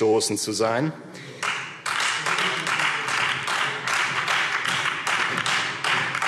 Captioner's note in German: Beifall Freie Demokraten